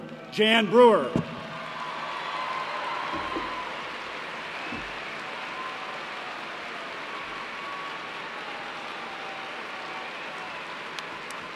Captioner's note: cheers and applause